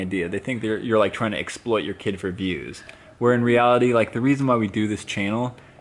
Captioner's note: none